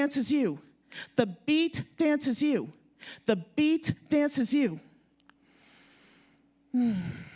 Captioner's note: sighs